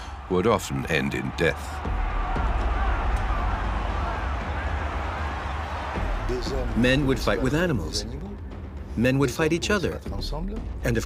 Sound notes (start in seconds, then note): 2.3 people cheer and shout